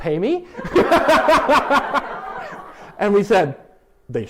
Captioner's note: laughter